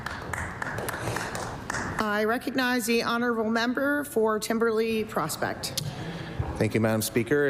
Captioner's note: applause